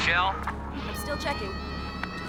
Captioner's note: over walkie-talkie